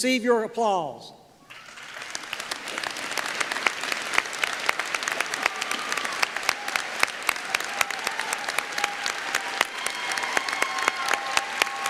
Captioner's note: applause